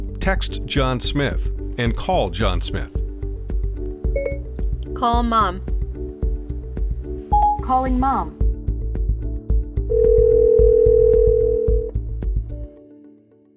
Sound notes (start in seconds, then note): 9.9 phone rings